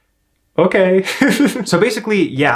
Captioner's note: laughs